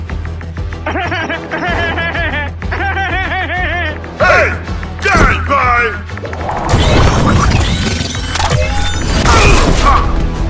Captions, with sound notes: *evil laugh* *evil laugh* HEY! HEY! EAT UMBRELLA EAT UMBRELLA *kingsman charging noises* *kingsman charging noises* EEEEOOOF EEEEOOOF ah ah